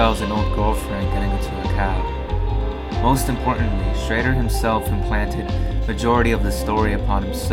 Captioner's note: hmmmmm